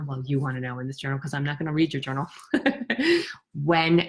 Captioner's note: laughs